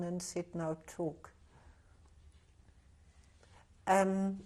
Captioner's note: pauses for 6 seconds